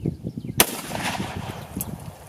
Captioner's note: gun fires